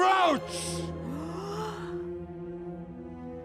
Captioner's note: gaaaaaasp